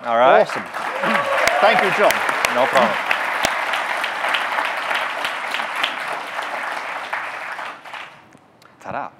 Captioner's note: audience clapping; applause